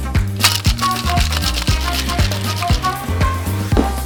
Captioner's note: ice shaking